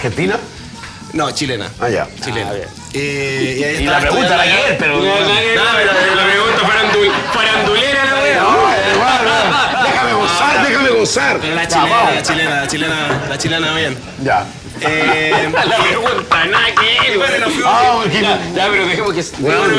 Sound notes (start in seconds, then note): 14.4 laughs